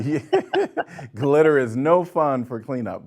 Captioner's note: laughing